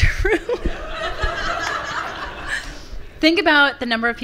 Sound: laughs; laughter from the audience

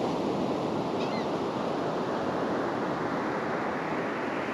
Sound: gull call

